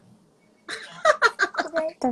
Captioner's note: laughing